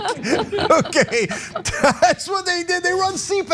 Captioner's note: laugh